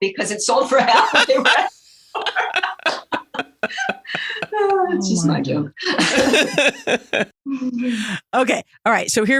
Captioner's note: laughs